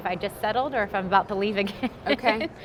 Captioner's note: laughs